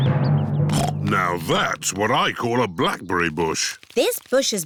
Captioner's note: snorts